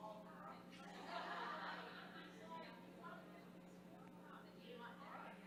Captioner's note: ladies laughing